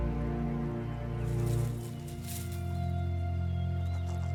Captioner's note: somber orchestral music; leaves rustling; rocks scraping